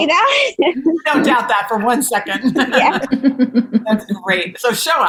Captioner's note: laughs